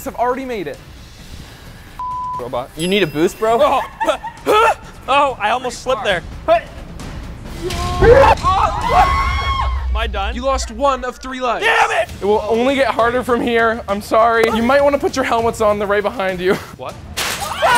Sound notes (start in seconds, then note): 2.0 beep; 3.6 grunts; 6.3 grunts; 7.6 others scream